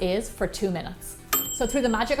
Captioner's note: ding!